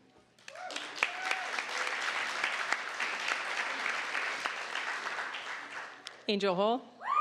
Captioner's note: applause